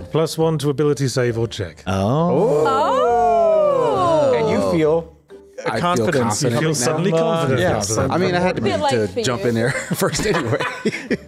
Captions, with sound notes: Plus one to ability save or check. [The Group Oooooo's] And you feel... Confidence. You feel suddenly confident. I feel confident now. I have to jump in there first anyway.